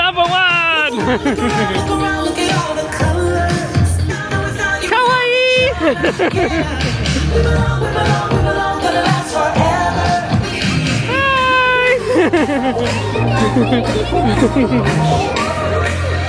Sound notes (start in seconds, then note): 0.8 laughing; 4.9 speaking in foreign language and laughing; 9.9 upbeat music continues; 10.8 laughing